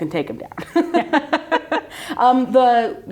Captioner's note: participants laugh